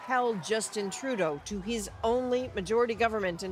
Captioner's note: cheers and Applause